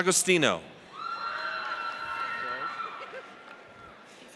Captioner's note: audience cheers